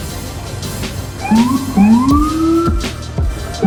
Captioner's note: police horn